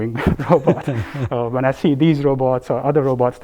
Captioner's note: laugh